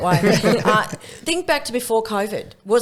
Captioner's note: laughing